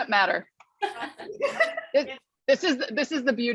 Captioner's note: laughter